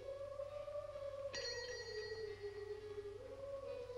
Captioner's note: gate bell rings